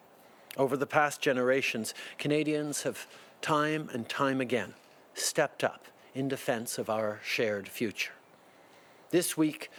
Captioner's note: speaking French